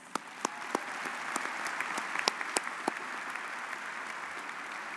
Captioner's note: audience applauds